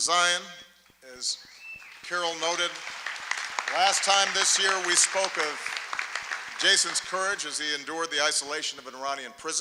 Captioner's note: applause; applause